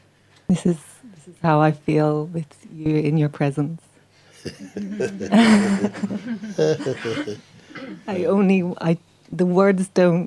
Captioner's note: laughter